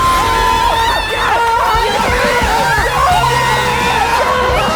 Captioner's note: everyone exclaims